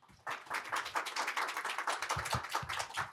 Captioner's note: applause